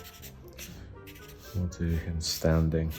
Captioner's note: pen scribbling